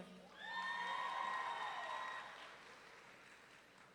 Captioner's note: audience cheering